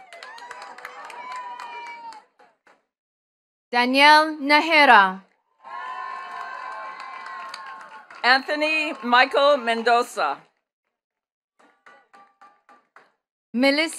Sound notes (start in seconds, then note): 0.0 attendees cheering and clapping; 5.6 attendees cheering and clapping; 11.6 attendees clapping